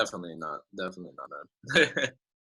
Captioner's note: laughing